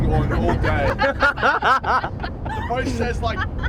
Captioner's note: cheerleaders laughing